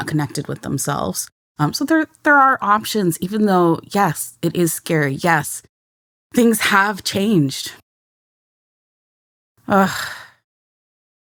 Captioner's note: sighs